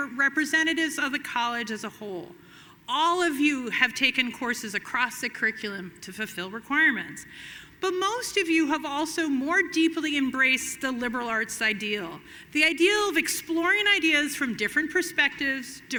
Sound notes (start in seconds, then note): none